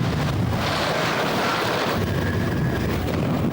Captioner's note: wind blows